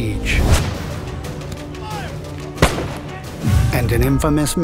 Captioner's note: gunshots firing